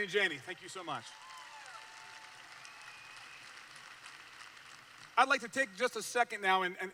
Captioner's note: applause